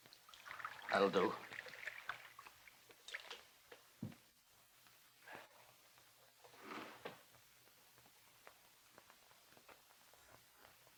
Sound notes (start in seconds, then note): none